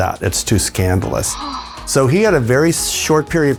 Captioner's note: Marilyn sighing